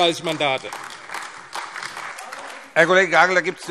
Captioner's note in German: Beifall AfD